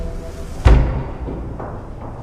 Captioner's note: knock